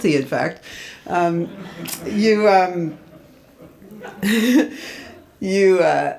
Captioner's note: audience laughs